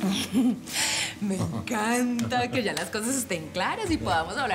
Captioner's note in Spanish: risas